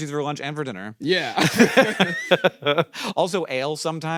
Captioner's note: laugh